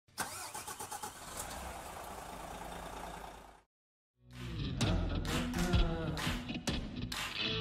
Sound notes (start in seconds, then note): 0.1 motorcoach engine starting; 4.3 upbeat rock music